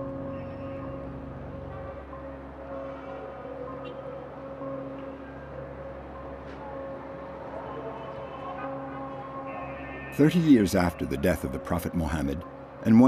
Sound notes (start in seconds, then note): 0.9 cars honking